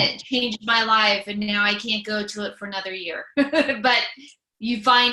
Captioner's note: laughs